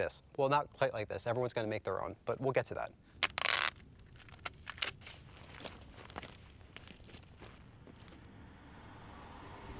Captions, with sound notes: Well, not quite like this. Everyone's going to make their own. But we'll get to that. [tape ripping]